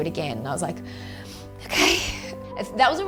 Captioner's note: sighs